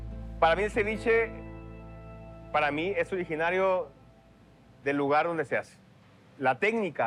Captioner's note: in Spanish